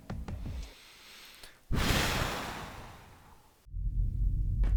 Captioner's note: exhales